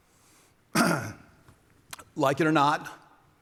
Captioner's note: coughs